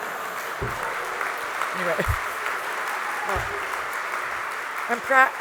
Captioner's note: applause